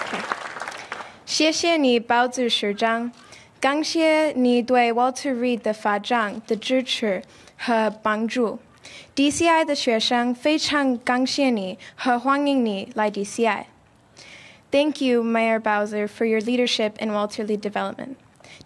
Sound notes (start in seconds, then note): 0.0 applause; 7.5 speaking chinese